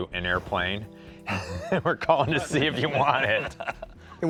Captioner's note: laughs